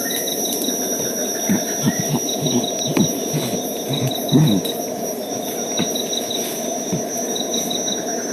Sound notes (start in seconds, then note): 0.7 chimps grunting